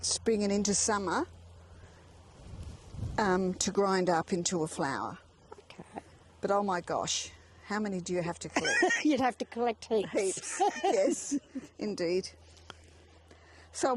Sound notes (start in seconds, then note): 10.1 laughs; 13.2 laughs